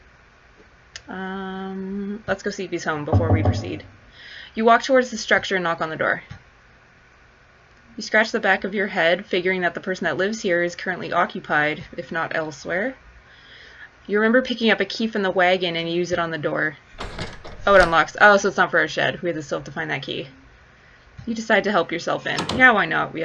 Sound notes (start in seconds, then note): 16.9 sound of door unlocking